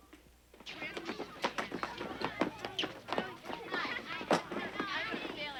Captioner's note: kids talking and yelling